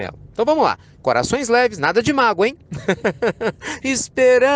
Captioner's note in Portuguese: Risos